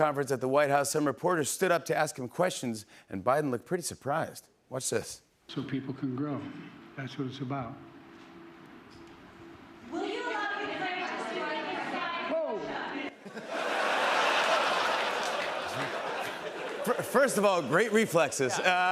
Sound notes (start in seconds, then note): 9.7 reporters shouting; 13.1 laughter